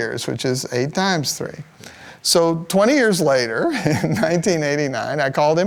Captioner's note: laugh